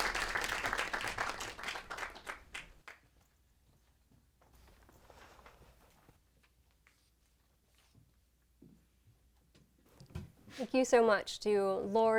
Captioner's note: audience applauds